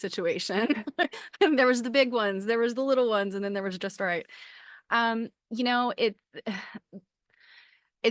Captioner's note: laughter